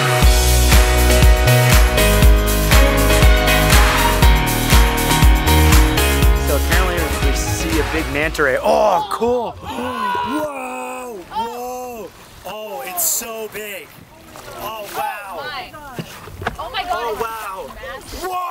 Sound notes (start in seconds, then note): 0.0 uplifting electronic music; 8.5 all exclaim; 9.6 gasps